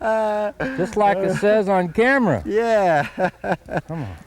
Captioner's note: laughter